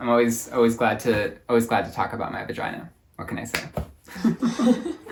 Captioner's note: both laugh